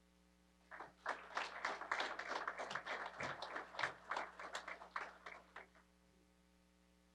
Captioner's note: applause